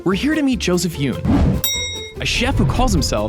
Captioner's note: bell dings